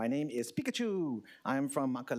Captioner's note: hawaiian language